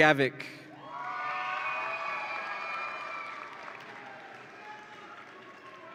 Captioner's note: audience applauds and cheers